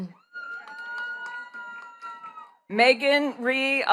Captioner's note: attendees cheering and clapping